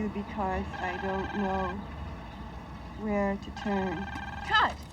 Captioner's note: phone ringing